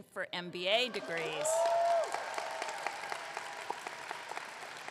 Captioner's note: audience clapping